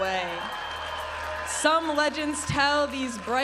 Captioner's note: audience applauding and cheering